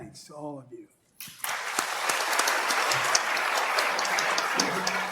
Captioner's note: applause